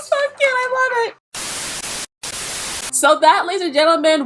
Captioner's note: screen screeching